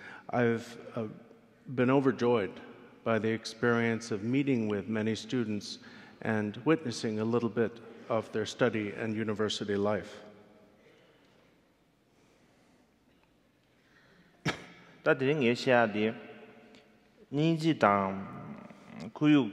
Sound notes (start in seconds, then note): 14.4 coughs; 15.4 speaking in foreign language